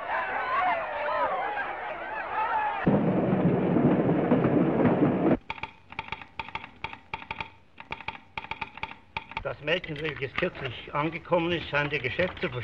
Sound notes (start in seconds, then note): 0.0 crowd cheering; 5.4 telegraph clicking